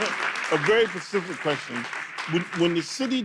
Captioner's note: audience clapping